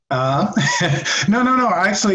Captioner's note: laughs